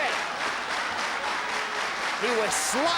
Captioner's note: spectators clapping rythmically